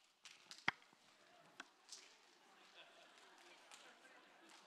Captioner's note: smacking; laughter